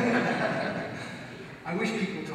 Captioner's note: audience laughs